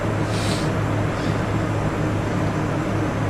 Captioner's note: sniffs